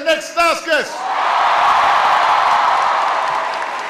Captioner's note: applause